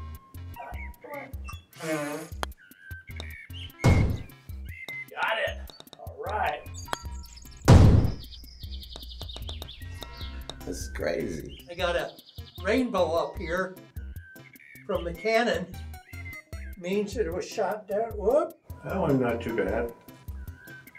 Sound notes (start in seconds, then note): 0.4 blows; 3.9 cannon fires; 7.7 cannon fires; 8.9 ball rattling